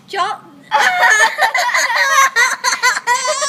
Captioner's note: laughter